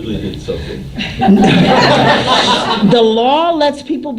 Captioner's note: laughter